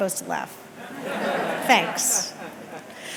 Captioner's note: audience laughing